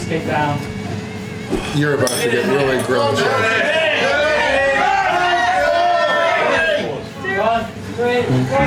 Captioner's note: crowd cheering